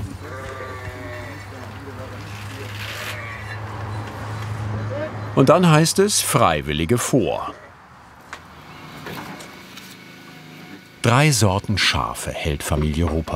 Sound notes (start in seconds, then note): 2.2 bleating